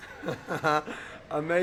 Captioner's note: laughs